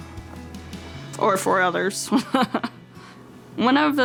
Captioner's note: chuckles